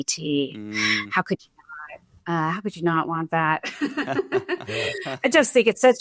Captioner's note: laughs